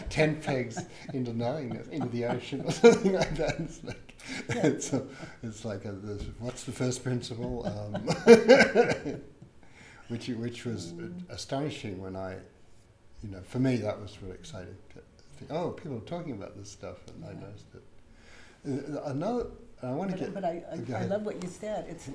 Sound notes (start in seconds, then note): 4.3 laughs